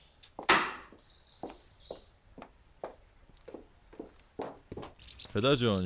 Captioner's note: smacking; heels creaking